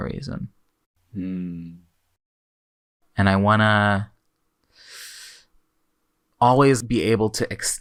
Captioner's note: inhales